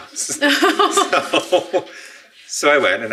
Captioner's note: laughing